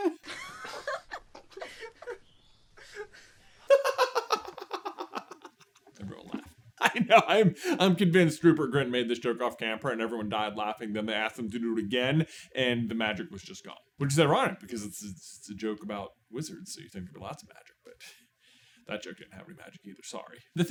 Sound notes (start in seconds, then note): 0.0 laughter; 3.6 laughs uproariously